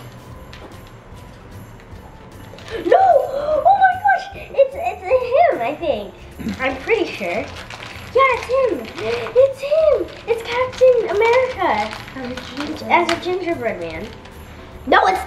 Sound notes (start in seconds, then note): 3.0 gasps; 7.8 plastic wrinkling; 9.8 gasps